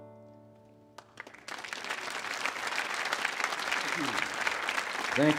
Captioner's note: audience applauds